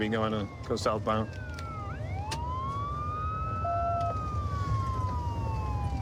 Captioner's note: sirens wailing